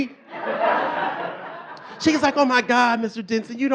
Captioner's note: audience laughing